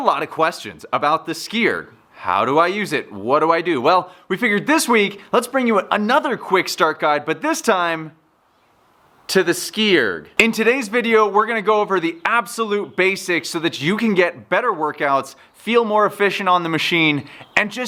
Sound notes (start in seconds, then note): none